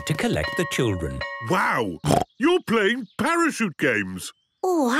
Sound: snorting

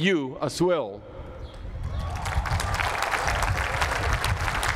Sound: applause

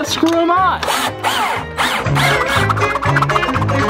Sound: drilling sound; intense music

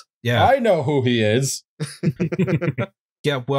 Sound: laughter

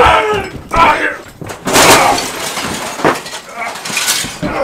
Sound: TV breaks

